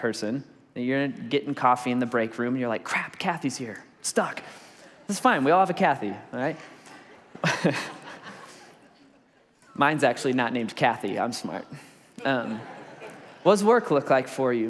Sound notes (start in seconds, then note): 6.3 congregation laughs; 7.2 laughs; 11.0 congregation laughs